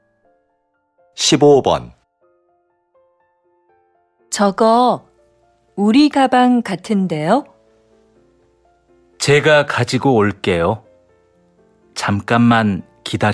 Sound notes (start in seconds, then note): 1.1 Korean audio